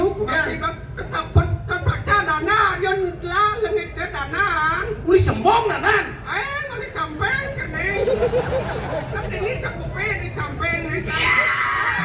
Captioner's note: laughs